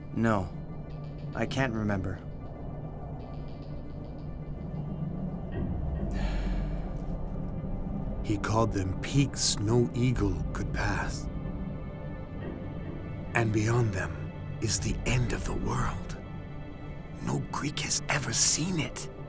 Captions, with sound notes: No, I can't remember. [gasps] He called them "peaks no eagle could pass." And beyond them is the end of the world. No Greek has ever seen it.